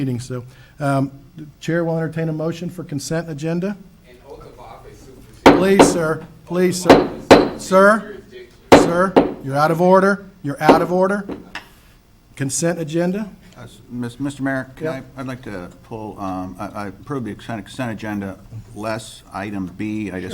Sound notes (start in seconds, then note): 6.8 gavel taps